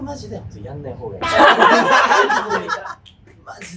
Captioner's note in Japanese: 笑い声